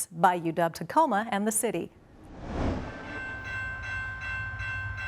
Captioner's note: train noises